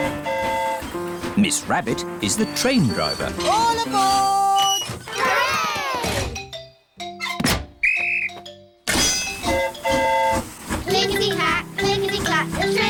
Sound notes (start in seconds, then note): 7.8 blows whistle; 7.8 train horn toots